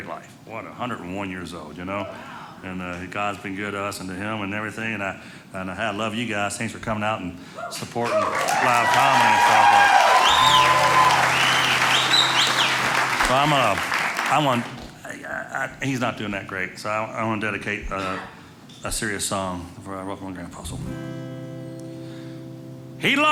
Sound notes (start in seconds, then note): 9.5 audience cheering